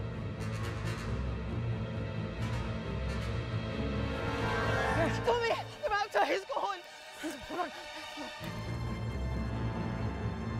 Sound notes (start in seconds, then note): 4.4 yelling